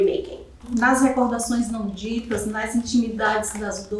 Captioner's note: speaking portuguese